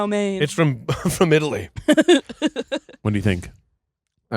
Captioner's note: laughing